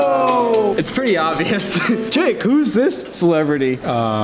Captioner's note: pretend ignorant voice